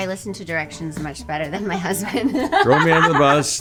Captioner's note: laughs